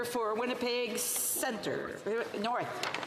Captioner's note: speaking French